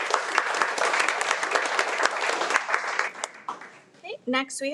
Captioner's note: audience applauds